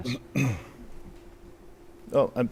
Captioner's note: clears throat